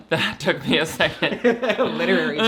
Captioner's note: both laugh; laughs